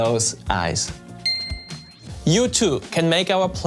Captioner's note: eyes twinkling